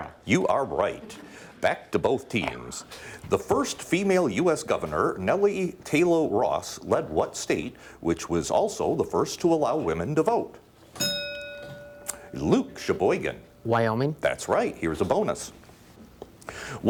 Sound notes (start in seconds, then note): 10.9 bell dinging